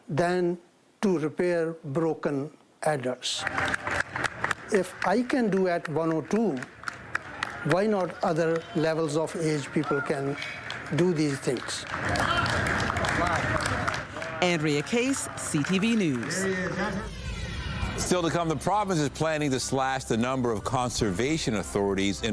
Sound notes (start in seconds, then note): 7.7 applause